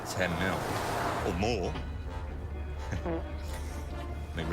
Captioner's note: man farts